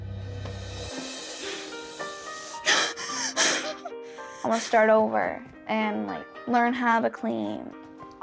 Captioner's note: cries